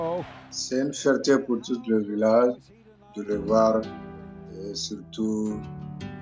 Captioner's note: speaking in French